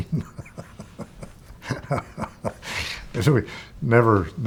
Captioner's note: laughs